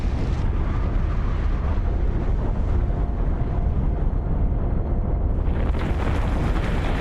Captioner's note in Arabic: صوت انفجار